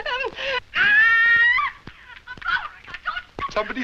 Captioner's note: stammering and nervously laughing; Flame Screams